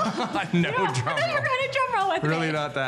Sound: laughing

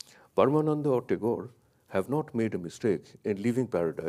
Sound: speaks in a foreign language

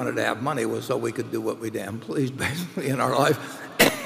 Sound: laughs

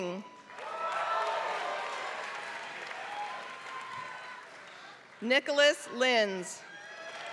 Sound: applause; applause

